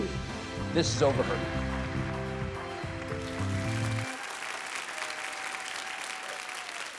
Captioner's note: audience applauds and cheers